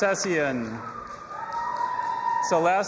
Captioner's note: audience applauding and cheering